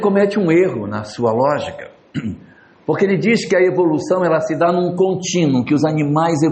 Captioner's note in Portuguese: limpando a garganta